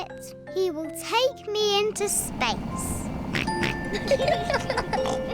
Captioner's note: oinks; both giggle